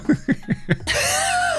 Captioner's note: laughing